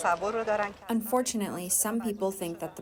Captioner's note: through translator